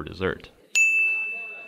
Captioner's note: ding!